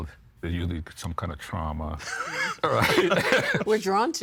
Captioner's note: laughing